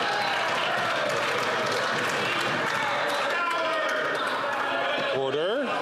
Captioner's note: some Applause